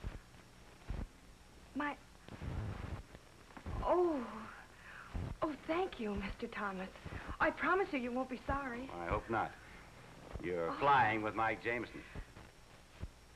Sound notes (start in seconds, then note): none